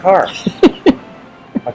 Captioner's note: laughing